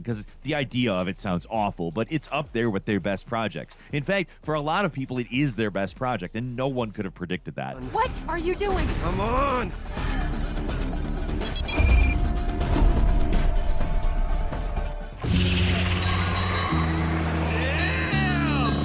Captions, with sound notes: 'Cause the idea of it sounds awful, but it's up there with their best projects. In fact, for a lot of people, it is their best project and no one could have predicted that. - What are you doing? - Come on! (upbeat music) (beeps) (upbeat music) (bright music) Damn!